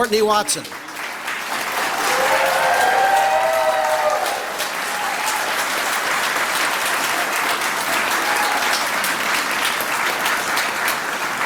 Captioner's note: applause